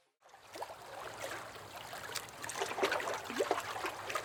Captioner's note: water lapping